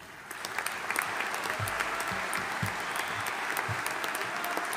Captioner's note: audience applauding